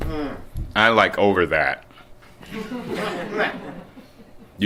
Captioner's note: laughter